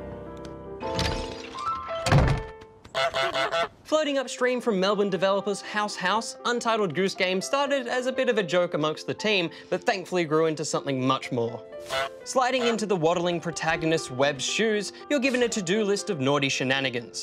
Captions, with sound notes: (HONKS) Floating upstream from Melbourne developers House House, Untitled Goose Game started as a bit of a joke amongst the team, but thankfully grew into something much more. Sliding into the waddling protagonist's webbed shoes, you're given a to-do list of naughty shenanigans,